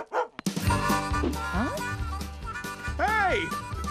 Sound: barking

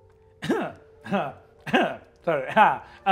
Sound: laughing

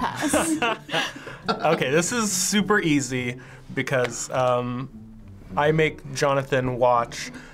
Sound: laughing

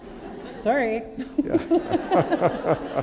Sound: laughter

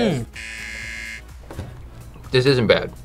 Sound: buzzer rings

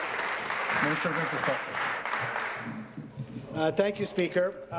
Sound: applause

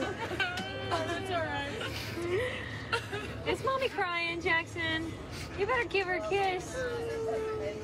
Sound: cryng

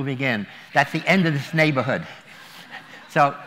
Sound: laughter

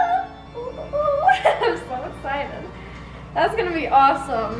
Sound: laughs

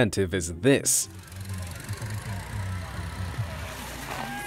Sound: machine whirring

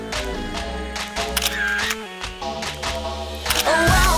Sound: camera clicking; camera clicking

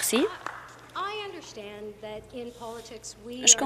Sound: applause

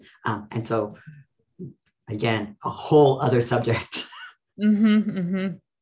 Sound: laughs

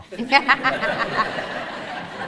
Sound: audience laughs

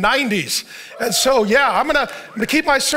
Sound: congregation cheers

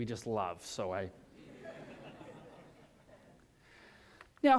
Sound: laughter

